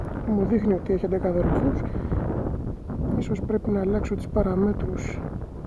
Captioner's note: aircraft